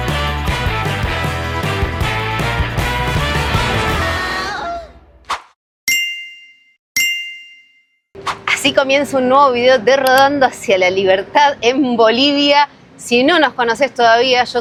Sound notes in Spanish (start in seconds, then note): 4.2 campana